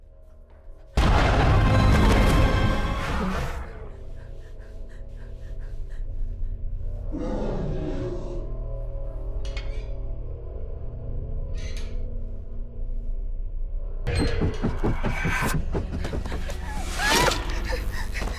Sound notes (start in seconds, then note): 0.2 sudden ominous music; 3.7 Heather breathing heavily; 7.1 monster growling; 10.0 metal clanking; 14.2 monster growling; 14.4 footsteps thudding rapidly; 16.6 Heather shrieking